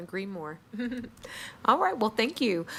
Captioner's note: chuckles